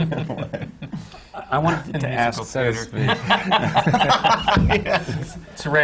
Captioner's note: laughter